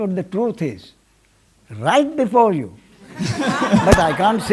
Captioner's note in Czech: smích